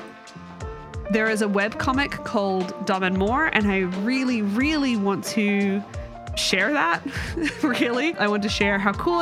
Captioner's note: chuckles